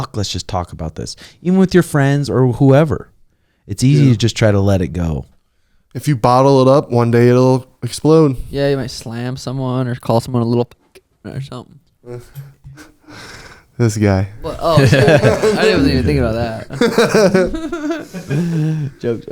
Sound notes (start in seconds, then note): 14.4 laughing